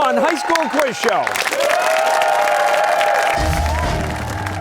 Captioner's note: cheers and applause